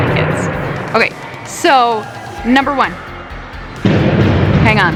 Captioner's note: banging